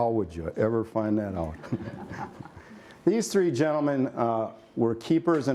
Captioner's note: laughter